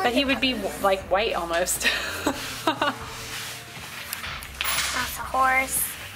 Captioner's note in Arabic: يضحك